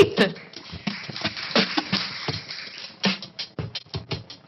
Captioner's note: applause